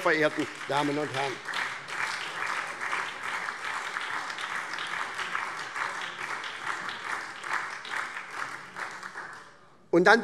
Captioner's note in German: Beifall SPD